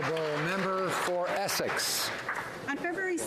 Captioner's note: applause